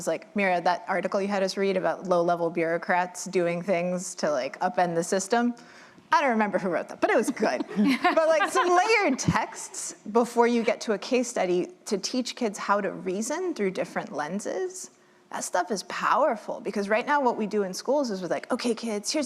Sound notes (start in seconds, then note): 7.3 laughter